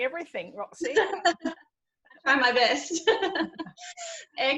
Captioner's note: laughs